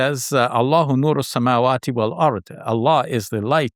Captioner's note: speaks in Arabic